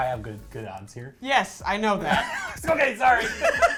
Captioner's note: both laughing; laughing